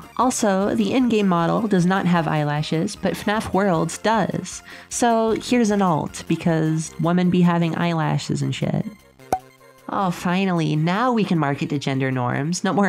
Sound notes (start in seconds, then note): 9.3 pop